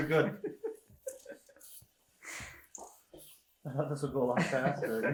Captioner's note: laughing